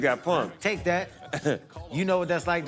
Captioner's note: chuckles